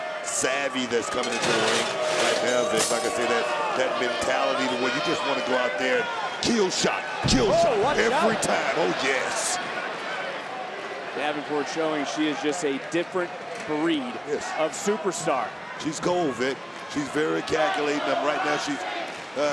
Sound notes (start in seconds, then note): 9.5 crowd chattering